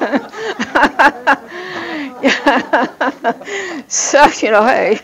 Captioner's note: laughs